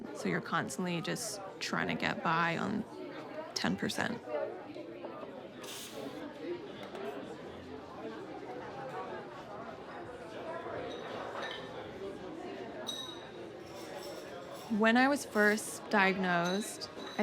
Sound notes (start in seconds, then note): 4.5 cafe chatter